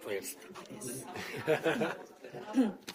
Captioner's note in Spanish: risas